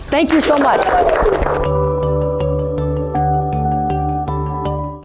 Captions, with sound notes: Thank you so much. (applauding) (upbeat music)